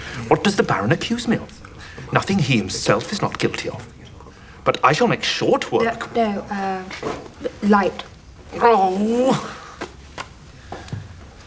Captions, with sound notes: What does the Baron accuse me of? Nothing he himself is not guilty of. - But I shall make short work... - No, no. Er...light. (Groans)